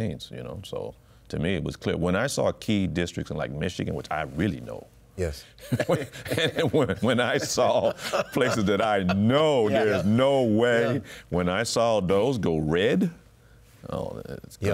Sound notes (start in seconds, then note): 5.7 laughs